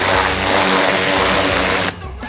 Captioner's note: water splashing